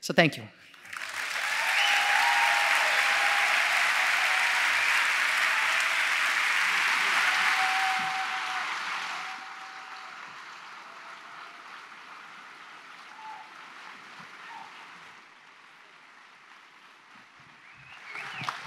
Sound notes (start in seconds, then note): 5.4 applause